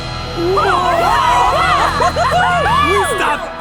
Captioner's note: cheering